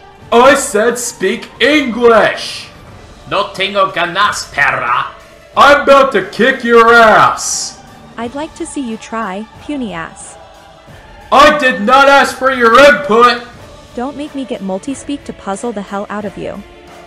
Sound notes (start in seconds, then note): 3.1 in Spanish